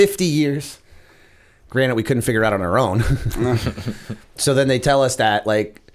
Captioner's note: chuckle